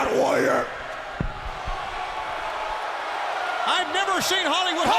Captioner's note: crowd chatter